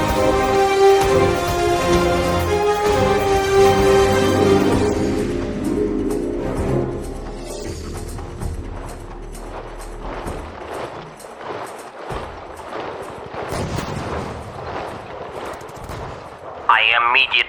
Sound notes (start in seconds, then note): 6.7 sounds of war